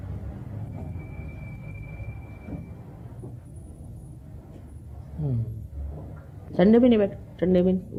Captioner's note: Shri Mataji speaks in Hindi